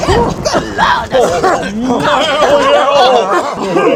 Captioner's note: thunder claps; all yelling